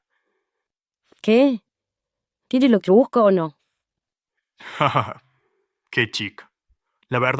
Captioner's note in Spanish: risas